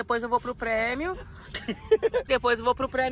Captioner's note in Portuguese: risos